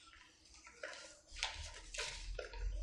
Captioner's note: papers rustling